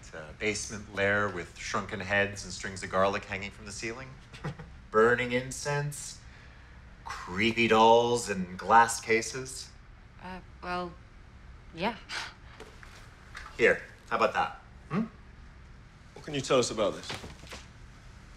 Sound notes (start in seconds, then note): 4.3 chuckles